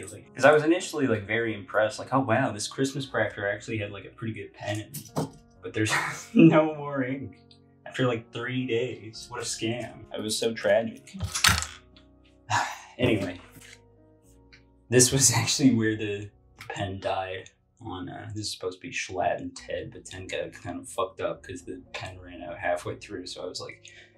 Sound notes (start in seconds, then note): 12.2 sigh